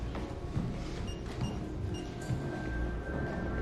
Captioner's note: beeping